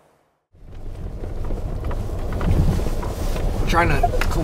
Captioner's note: car engine revving